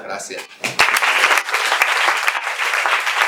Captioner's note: applause